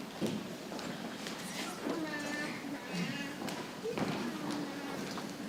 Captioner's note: people chattering softly